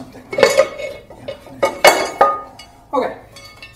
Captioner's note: loud clattering